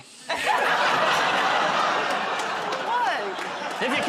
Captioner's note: laughter